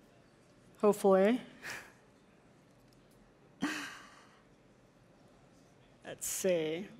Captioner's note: laughs